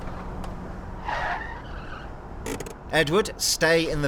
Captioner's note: tires squeal